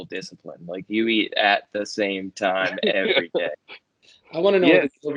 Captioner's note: laughter